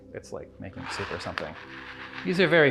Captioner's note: berries pour